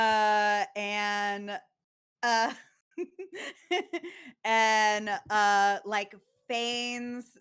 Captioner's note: laughs